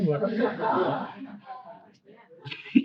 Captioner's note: laughter